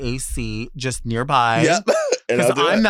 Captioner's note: laughs